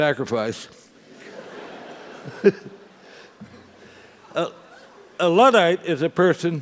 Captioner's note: laugh